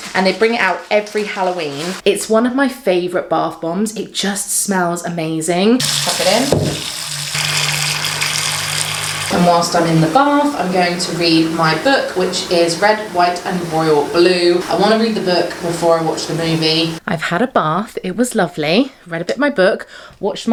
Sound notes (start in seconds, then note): 5.8 bath bomb clunks; 7.7 water trickling